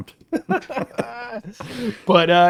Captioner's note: both laughing